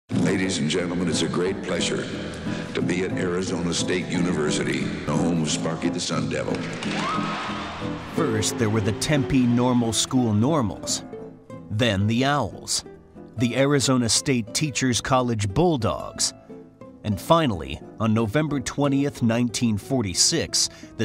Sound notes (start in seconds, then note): 6.5 audience applauding; 6.7 audience cheering